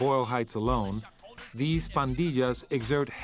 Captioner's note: speaks in foreign language